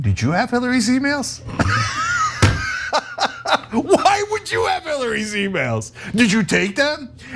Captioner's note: laugh